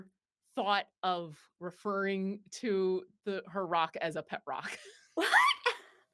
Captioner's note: laughs